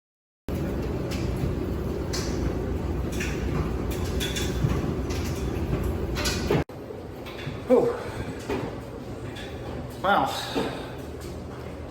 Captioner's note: dryer runs in background